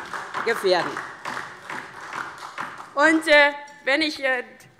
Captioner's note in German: Beifall DIE LINKE